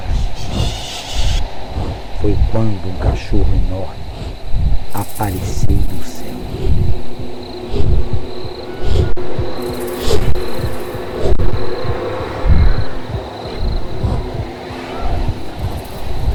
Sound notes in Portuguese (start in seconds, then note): 0.3 Vento intenso; 4.8 Chocalho distante; 7.7 Vento forte; 13.3 Vento intenso